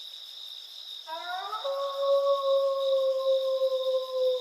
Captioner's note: wolf howling